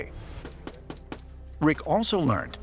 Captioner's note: knocking on door